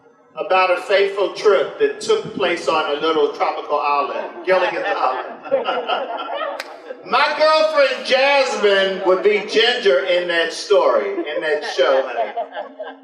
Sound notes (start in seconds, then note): 5.8 general laughter